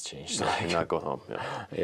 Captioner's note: laughs